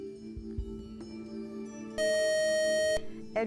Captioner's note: buzzer